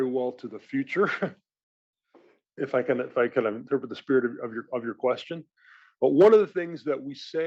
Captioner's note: laugh